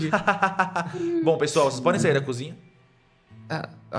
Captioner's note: laugh